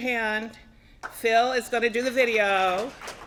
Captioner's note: applause